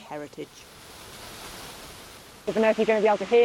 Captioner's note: water rumbling